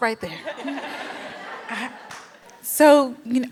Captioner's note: laughter